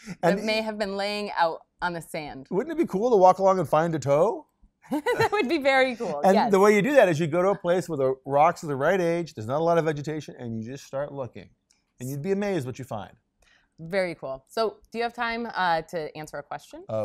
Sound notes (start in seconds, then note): 4.9 laughs